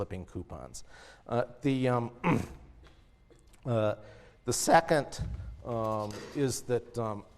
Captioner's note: cough